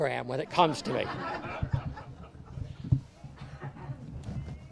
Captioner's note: audience laughs